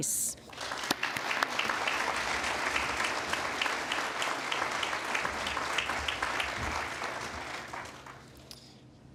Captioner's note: applause